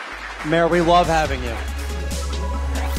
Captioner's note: applause